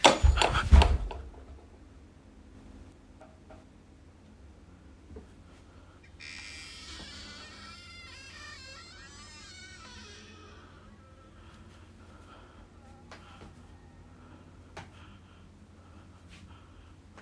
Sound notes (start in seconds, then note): 0.0 door shuts; 6.0 door creaks